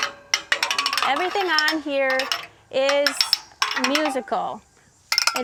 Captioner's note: scales clatter musically